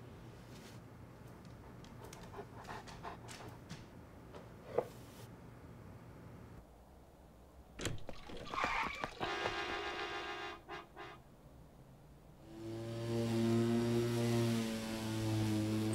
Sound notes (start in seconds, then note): 1.5 dog panting; 7.8 door latch clicks; 9.2 brakes screeching; 9.6 car horn honking; 12.6 lawnmower whirring